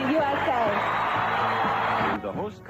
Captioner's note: crowd cheering